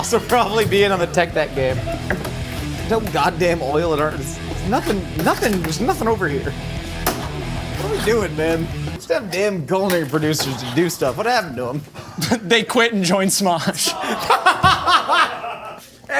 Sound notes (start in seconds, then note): 1.9 rock music; 7.1 toy skateboard slamming; 13.8 laughs; 13.8 everyone laughing